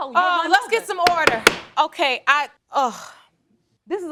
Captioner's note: groans